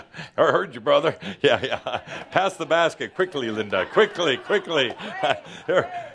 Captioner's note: laughter